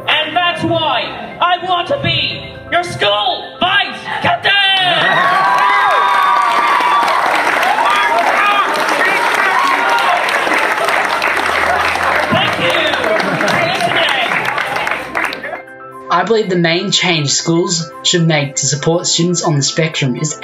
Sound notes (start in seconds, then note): 5.2 audience cheers